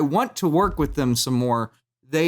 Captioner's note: thumps table